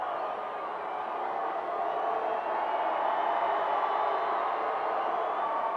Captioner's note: audience cheering continues